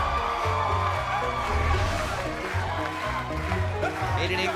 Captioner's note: cheers & applause